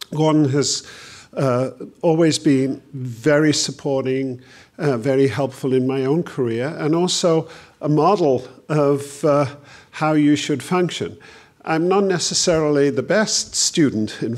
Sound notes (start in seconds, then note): none